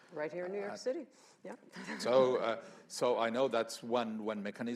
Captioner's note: laughs